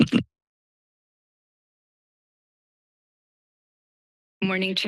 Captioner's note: microphone noise; silence